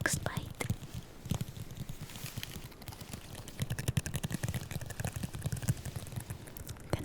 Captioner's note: soft finger tip tapping